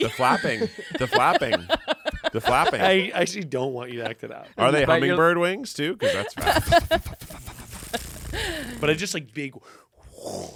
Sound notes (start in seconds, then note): 0.9 laughs